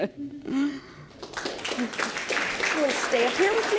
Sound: audience applause

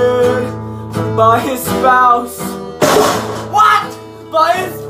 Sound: garbage can being kicked

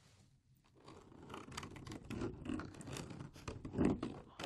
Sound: rubbery squeaking

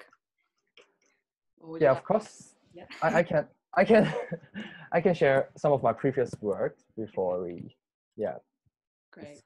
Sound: laughs

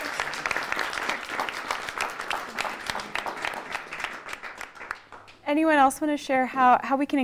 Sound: laughter/applause

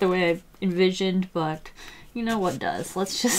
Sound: laughs

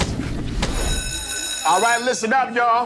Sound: school bell ringing

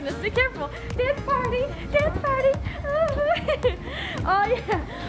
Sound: laughs

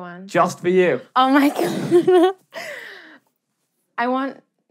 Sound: laughs

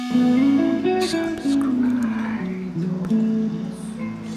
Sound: whispers

